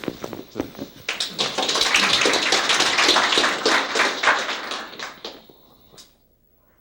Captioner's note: applause